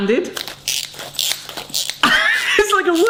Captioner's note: gadget creaks